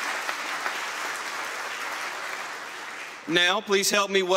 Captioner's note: applause